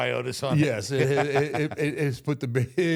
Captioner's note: Michael laughs